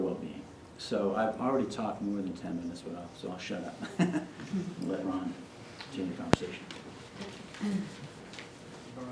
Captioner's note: chuckles